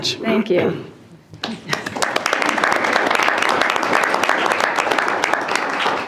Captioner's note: trustees applauding